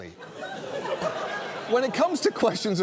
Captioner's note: audience laughs